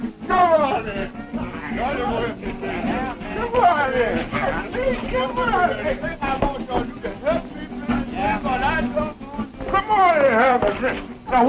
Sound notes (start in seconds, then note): 5.9 group bickering